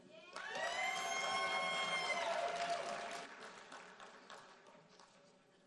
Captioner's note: audience cheering and applauding